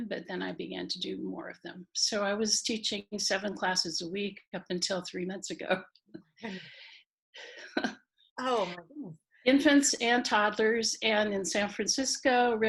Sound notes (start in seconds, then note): 5.9 laughing